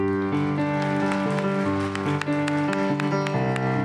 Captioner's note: applause